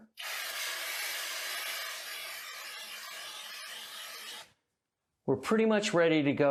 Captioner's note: spraying